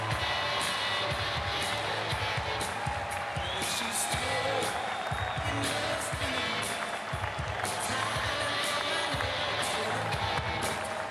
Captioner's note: cheering and Applause